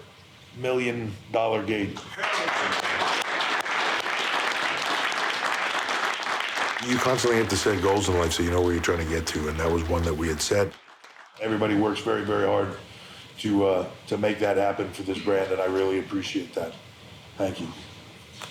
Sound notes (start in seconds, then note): 2.4 applause